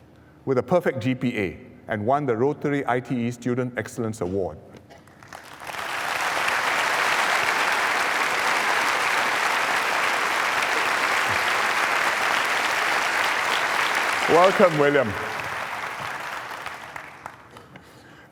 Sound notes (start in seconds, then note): 5.0 applause